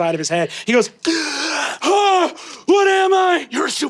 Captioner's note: gasps and screams